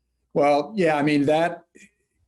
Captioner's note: chuckles